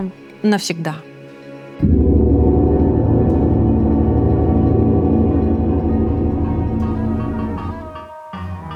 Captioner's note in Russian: Тревожный гонг